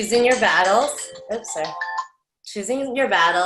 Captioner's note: phone rings